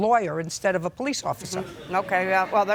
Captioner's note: attendees laughing